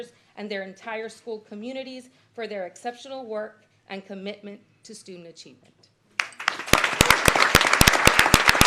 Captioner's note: applause